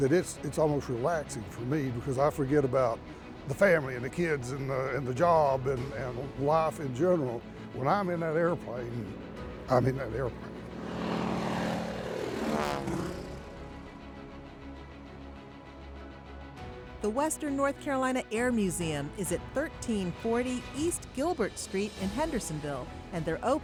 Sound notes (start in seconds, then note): 11.3 plane engine roaring; 13.4 dramatic music